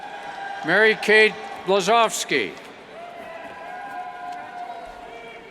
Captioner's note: cheers